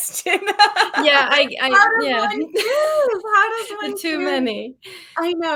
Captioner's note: laughs